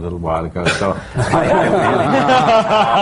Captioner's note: laughter